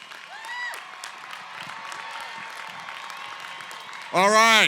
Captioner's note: cheering, applause